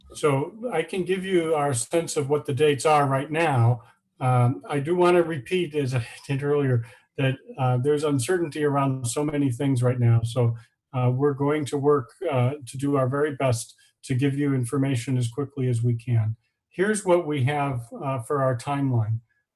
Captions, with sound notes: So I can give you our sense of what the dates are right now. I do wanna repeat as I did earlier (laughing), that there's uncertainty around so many things right now. So we're going to work, to do our very best to give you information as quickly as we can. Here's what we have for our timeline.